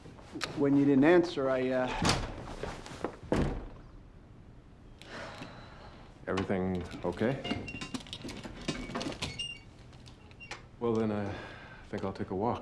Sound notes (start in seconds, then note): 5.1 sighs